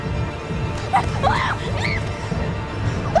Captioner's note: screaming